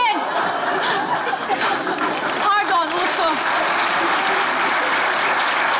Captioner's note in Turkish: Kahkaha ve alkış sesleri